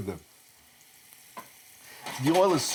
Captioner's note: gentle frying